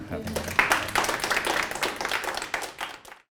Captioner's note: applause